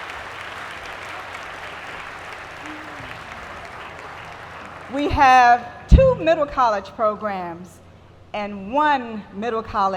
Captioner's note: applause